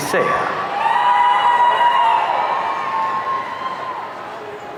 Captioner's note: audience cheering